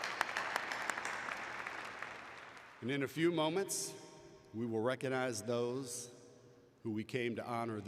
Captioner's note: applause